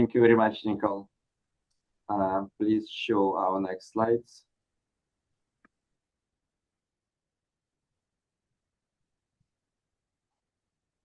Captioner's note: pause